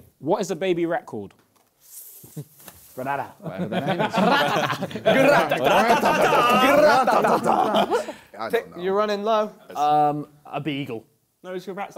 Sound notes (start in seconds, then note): 3.5 both laughing